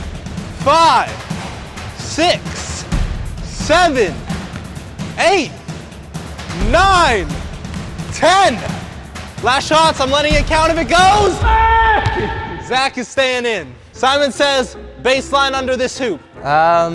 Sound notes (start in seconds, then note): 10.3 yells